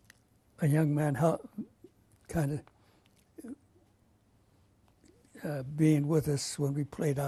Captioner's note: pauses for 3 seconds; pauses for 3 seconds